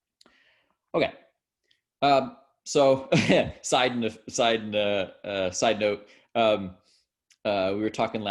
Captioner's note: laughs